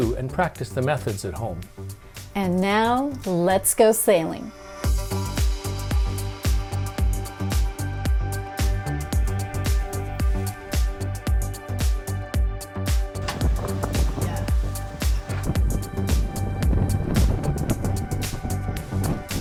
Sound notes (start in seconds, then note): 13.2 wind blowing